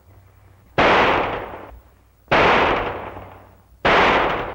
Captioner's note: gunshots